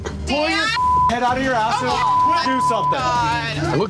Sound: beep

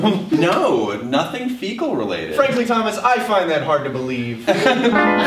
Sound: chuckles

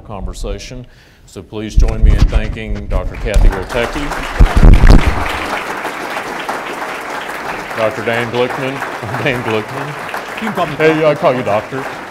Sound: applause

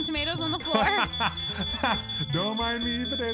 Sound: fire alarm blares

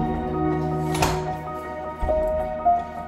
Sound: door slams shut

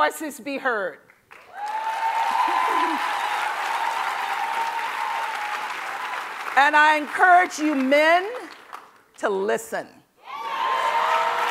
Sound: cheering

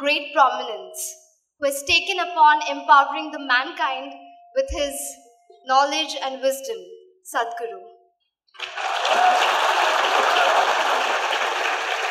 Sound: applause

